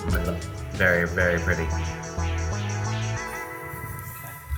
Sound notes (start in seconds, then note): 3.4 laughs